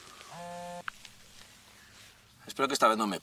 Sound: phone vibrating

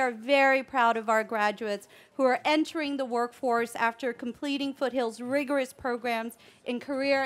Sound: none

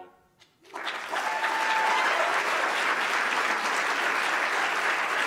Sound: cheering and clapping

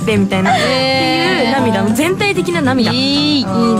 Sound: tears

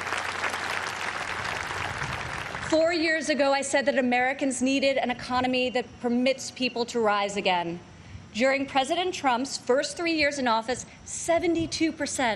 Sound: applause

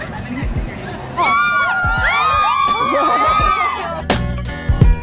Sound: crowd screaming

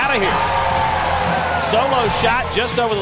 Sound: cheering

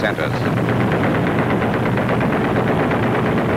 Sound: guns banging

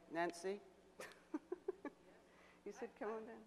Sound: laughs

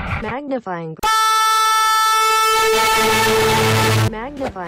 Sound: Really loud PS3 startup sound

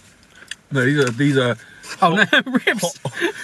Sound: both laugh

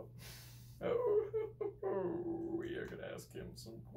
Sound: Richard laughs

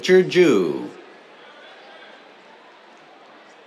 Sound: cheers

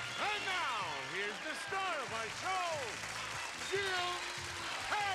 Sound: audience cheering

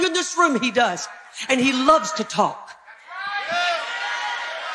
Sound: congregation cheering

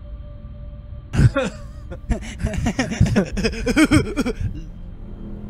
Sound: laughing

